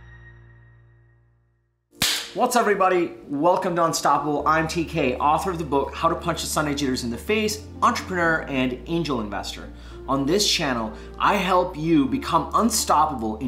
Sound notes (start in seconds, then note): 2.1 claps